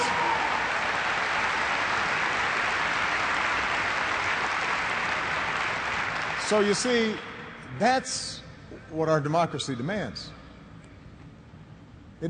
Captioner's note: applause